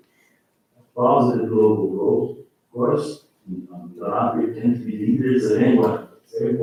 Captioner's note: faintly speaking